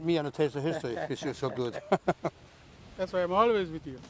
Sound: laughs

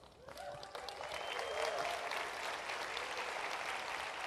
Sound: applause

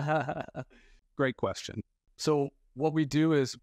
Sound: laughs

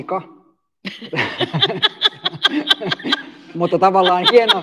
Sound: laughter

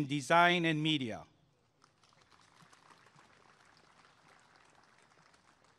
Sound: applause and cheering

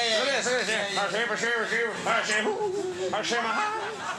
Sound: Conan murmurs

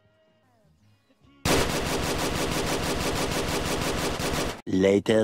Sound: rage gunfire

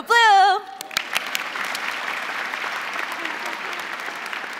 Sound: crowd applauding

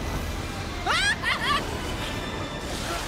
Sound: yelling

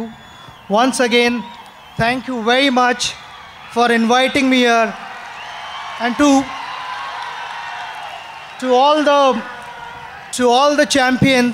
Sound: applause

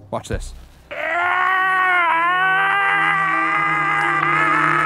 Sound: screams

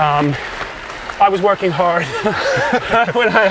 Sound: laughing

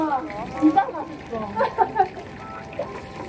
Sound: laugh

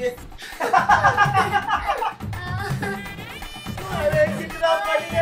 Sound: laughing

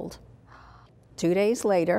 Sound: gasp

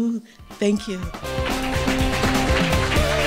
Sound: audience clapping; instrumental music

